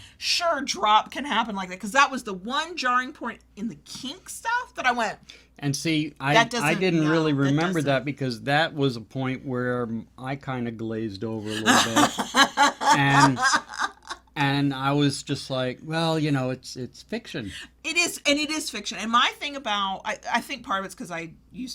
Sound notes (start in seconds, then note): 11.4 laughs